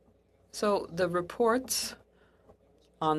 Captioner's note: speaking French